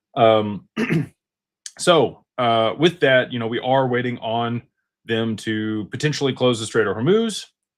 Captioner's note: clears throat